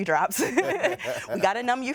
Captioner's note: doctors laugh